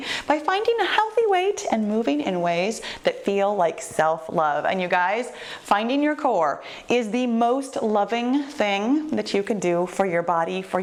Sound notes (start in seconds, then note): none